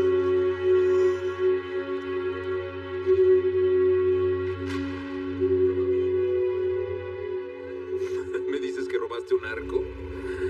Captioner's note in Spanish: Ríe